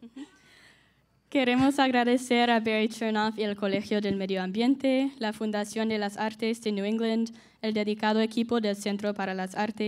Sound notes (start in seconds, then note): 1.3 speaking in Spanish